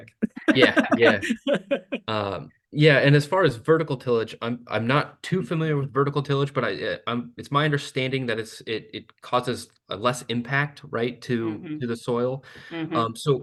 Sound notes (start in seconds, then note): 0.5 laughs